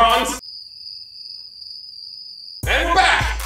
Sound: crickets chirping

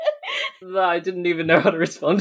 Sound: laughing

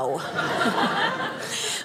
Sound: audience laughing

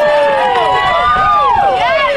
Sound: crowd

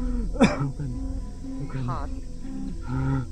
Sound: coughs

